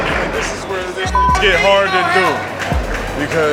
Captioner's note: beep